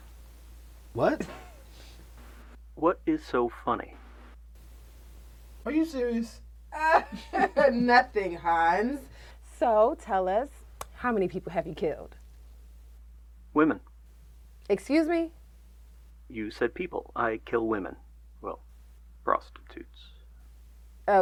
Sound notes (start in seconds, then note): 6.7 chuckles